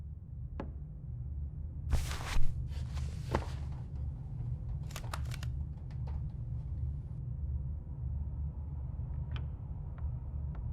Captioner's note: footsteps